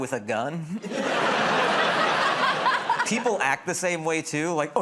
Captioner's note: laughter